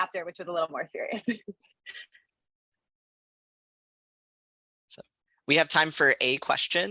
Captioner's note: laughter